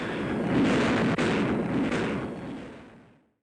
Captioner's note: canons boom